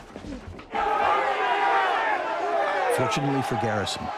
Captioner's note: yelling